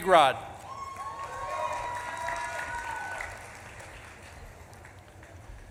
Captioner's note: audience claps and cheers